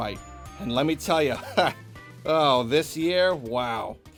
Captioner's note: laughs